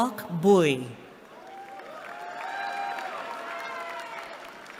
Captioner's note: cheering